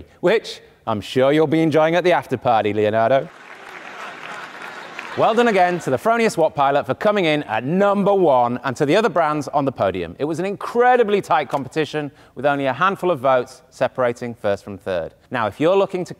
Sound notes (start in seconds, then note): 3.2 audience applauding; 3.9 audience laughing